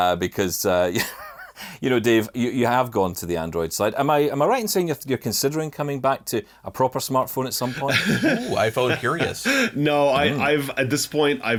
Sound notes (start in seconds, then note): 9.1 laughs